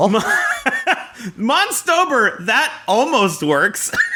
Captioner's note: laughs